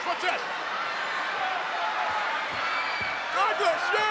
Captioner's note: crowd yelling